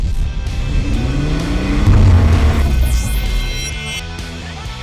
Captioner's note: engine roar